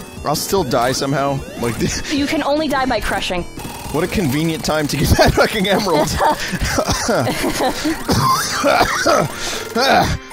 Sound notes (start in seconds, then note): 5.2 coughs; 7.8 laughs; 8.1 Vinny has a coughing fit